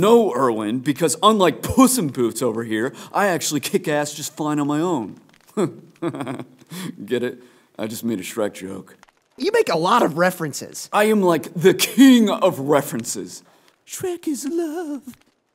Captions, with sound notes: No, Erwin, because unlike Puss-In-Boots over here, I actually kick ass just fine on my own (chuckles) Get it? I just made a Shrek joke You make a lot of references! I am like, the KING, of references! Shrek is love~